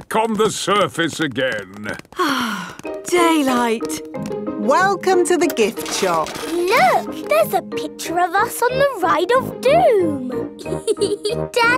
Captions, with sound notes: Back on the surface again! (SIGHS) Daylight! Welcome to the gift shop! Look! There's a picture of us on the "Ride of Doom"!